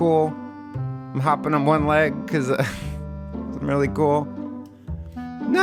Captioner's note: laughs